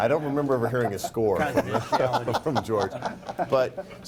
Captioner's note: laughing